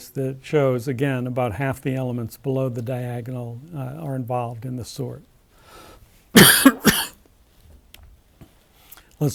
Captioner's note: cough